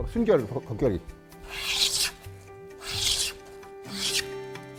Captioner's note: planing sound